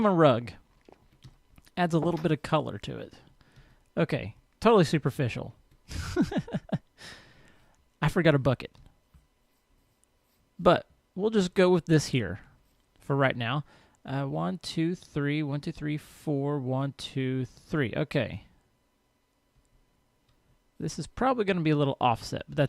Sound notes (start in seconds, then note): 5.9 laughs